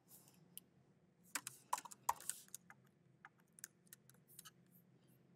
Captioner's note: keyboard clicking